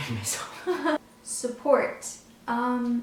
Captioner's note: laughs